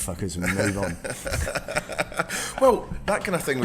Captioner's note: laughing